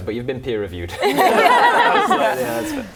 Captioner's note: laughing